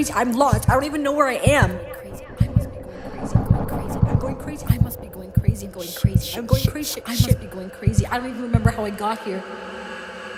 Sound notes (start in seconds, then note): 2.6 echoing voice; 9.6 eerie music